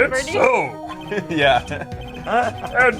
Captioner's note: laughs